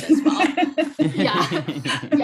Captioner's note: laughing